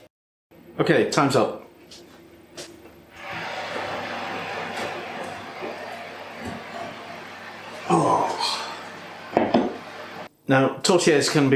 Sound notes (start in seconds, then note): 3.1 oven roaring